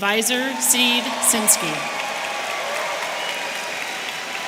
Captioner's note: audience cheering